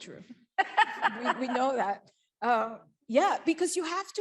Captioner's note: laughs